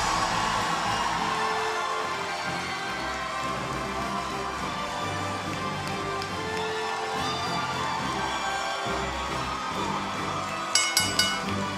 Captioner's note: cheers and applause; bell ringing